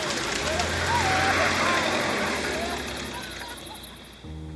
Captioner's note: engine revs; horn honks; distant yelling; warm piano music